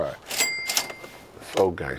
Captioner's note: cash register dinging